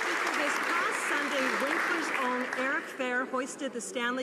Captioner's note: some Applause